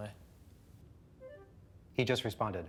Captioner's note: message notification tone